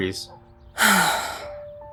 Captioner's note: sighs